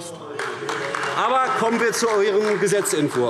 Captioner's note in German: Beifall AfD